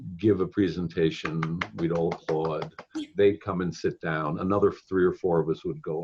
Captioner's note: clapping